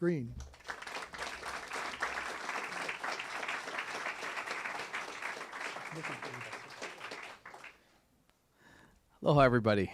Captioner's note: applause